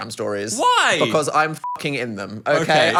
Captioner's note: beep